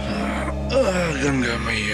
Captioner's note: Sighs